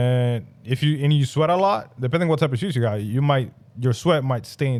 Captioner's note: none